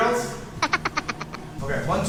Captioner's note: chuckle